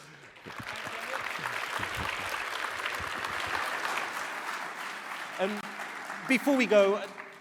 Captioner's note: applause